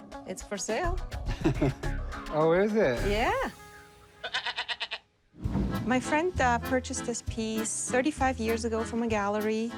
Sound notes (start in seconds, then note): 1.3 chuckles; 4.2 goat bleats